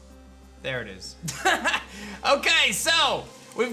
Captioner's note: laughs